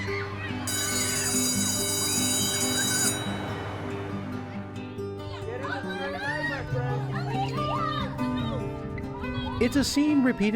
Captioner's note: bell ringing